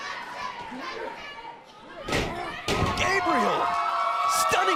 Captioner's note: crowd cheering